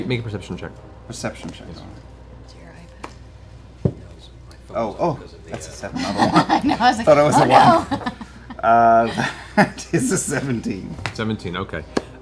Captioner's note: laughs